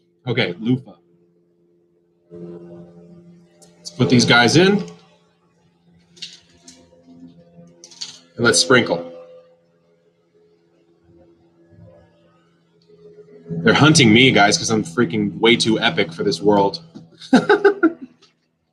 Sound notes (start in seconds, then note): 5.9 helicopter buzzing; 10.3 helicopter buzzing; 17.2 laughs